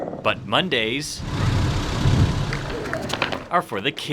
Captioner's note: car engine revving